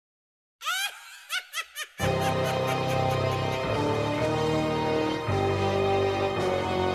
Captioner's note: evil laughter; suspenseful music